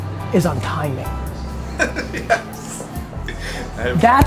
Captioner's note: laughs